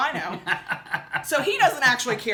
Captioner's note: laughing